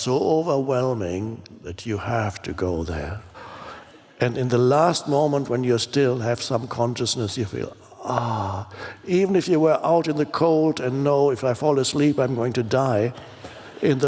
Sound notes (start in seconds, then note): 7.9 moans